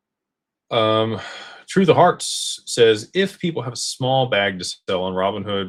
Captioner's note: sighs and gasps